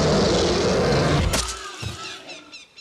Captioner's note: lion roars; spear thuds